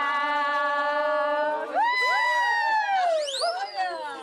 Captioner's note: cheering